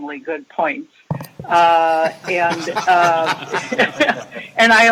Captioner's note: Regents laughing